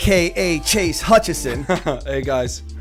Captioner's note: chuckle